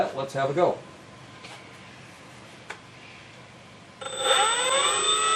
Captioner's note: motor noise